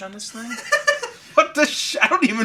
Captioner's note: laughing